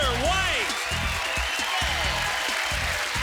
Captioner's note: cheering